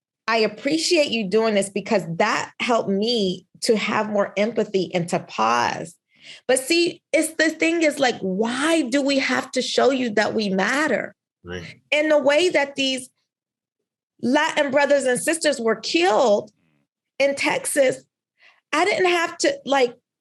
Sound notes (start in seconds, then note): none